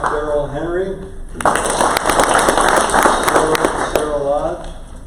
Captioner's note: crowd applause